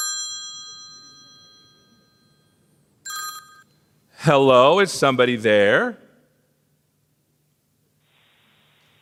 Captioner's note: phone ringing